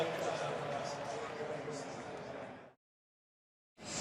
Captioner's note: pa announcement